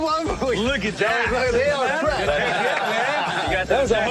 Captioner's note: laughter